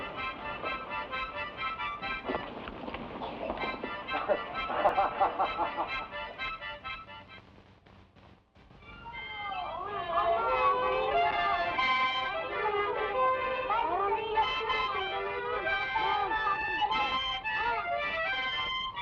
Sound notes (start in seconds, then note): 0.0 discordant harmonica music; 4.1 Judd laughs; 9.0 boys chatter; 10.2 discordant harmonica music